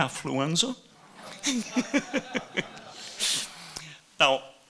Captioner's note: laughing